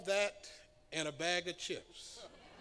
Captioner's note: laughter